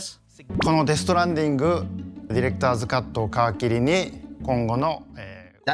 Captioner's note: speaking Japanese